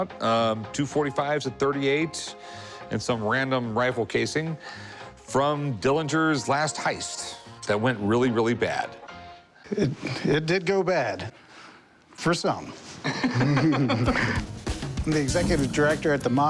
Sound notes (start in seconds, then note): 13.0 laughter